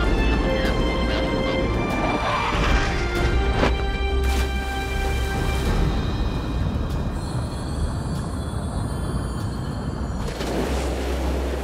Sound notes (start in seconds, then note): 3.5 parachute snaps open; 4.1 water splashing